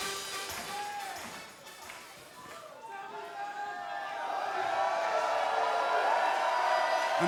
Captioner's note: crowd chatter; crowd cheering